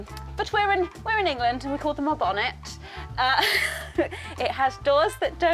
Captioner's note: laughs